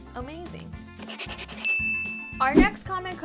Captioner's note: typewriter typing